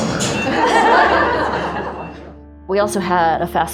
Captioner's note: all laughing